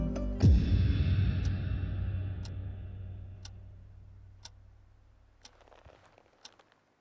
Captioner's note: clock ticking